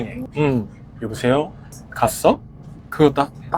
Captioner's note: imitating the Seoul accent